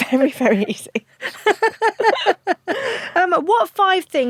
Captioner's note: both laugh